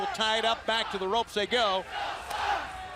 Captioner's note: crowd cheering